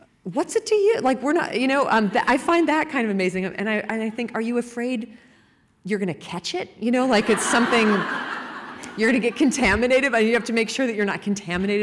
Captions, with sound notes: What's it to you? I find that kind of amazing. And I think are you afraid you're going to catch it? [laughter] Like it's something -- You're going to get contaminated by it? You have to make sure that you're not contaminated